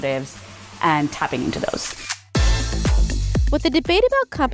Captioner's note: camera flashing